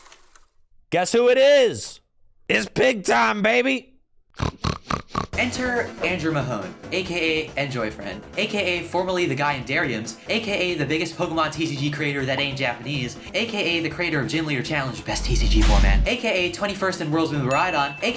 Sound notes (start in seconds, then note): 4.4 snorts in mahone